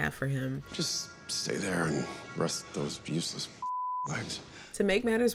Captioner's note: beep